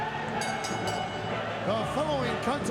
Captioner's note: bell rings